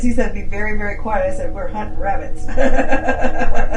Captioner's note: chuckles